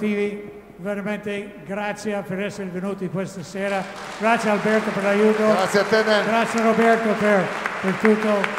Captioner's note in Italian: Applauso